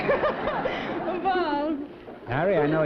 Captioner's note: laughter